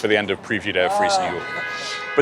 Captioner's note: crowd noise